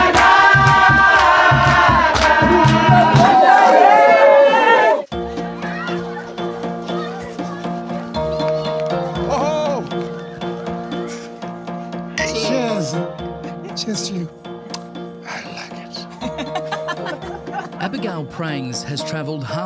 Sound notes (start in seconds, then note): 3.4 crowd cheering; 5.3 upbeat music; 7.1 children yelling happily; 16.1 laughing